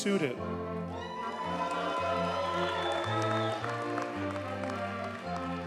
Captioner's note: audience cheers and applauds